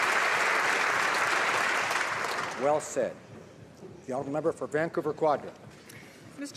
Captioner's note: applause